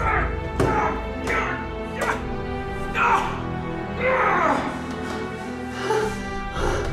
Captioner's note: hitting the table and yelling in grief and enragement